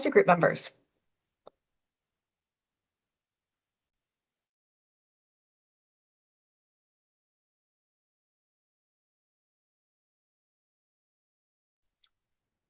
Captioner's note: pause